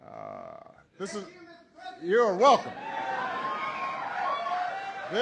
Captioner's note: applause